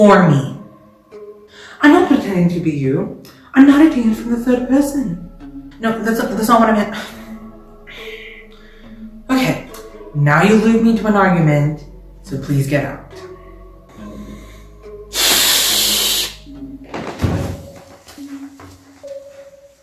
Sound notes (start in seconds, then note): 15.1 hisses